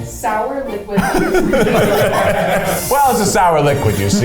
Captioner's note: all laugh